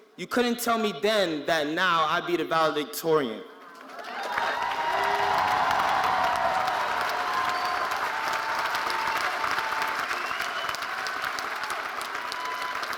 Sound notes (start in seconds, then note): 3.8 audience cheering and applauding